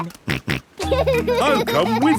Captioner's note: snorts and laughs